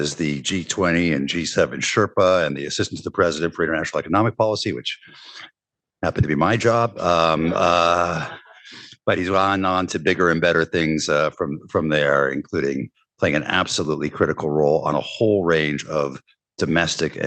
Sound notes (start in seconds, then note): 7.0 laughter